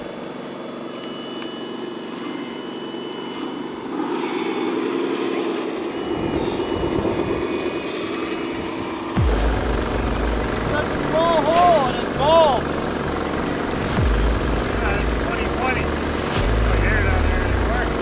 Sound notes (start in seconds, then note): 6.8 thunder rumbles; 9.1 dramatic music